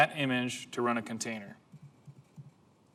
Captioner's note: typing sound